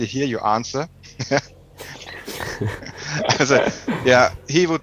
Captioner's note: laughs